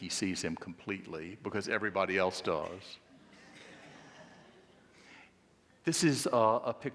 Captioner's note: audience laughing